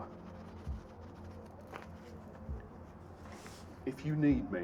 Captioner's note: pen scribbling